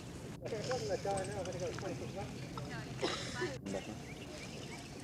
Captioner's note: chatter